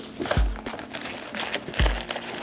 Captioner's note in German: Rascheln